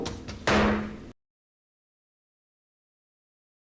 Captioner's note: gavel striking